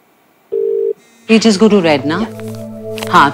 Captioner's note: Phone vibrating